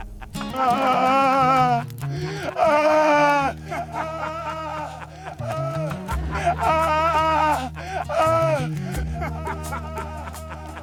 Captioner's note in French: Hurlements de douleur